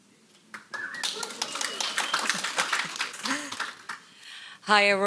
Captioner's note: audience applauds